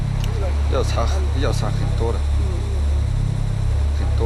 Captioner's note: Chinese spoken audio